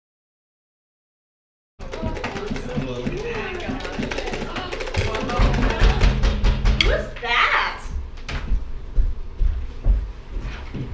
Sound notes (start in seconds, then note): 1.9 everyone clamoring; 5.7 knocking on door